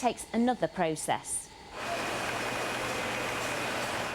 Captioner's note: background machinery sound